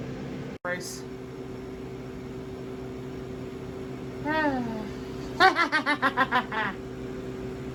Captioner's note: laughs